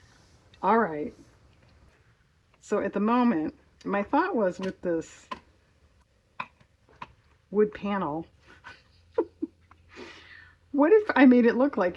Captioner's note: laughs